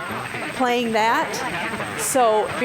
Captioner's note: garbled static and noises